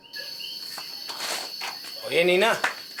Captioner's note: coqui sound